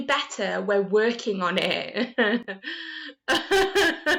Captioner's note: laughter